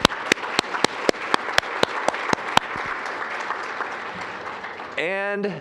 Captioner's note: applause